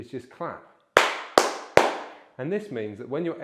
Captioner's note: clapping